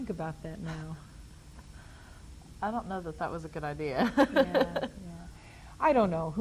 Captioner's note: laughs